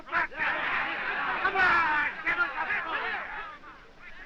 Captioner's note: all shouting